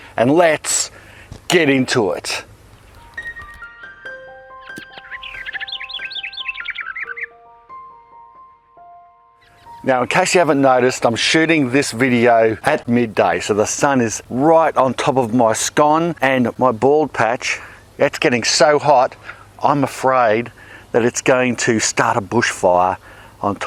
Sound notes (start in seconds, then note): 3.4 gentle music; 4.5 bird tweeting